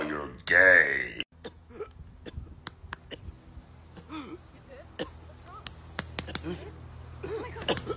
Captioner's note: coughing and choking sounds; coughing and choking sounds